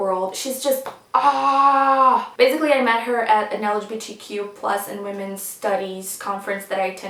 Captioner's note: sighs